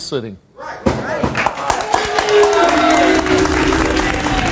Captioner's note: audience applauds